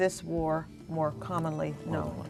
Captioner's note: beeping